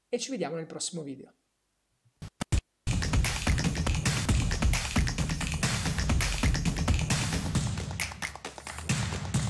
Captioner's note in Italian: Applauso